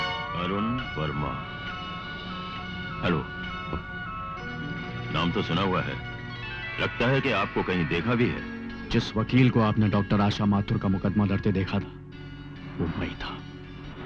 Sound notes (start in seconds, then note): none